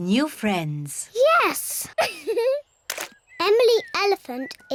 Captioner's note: laughs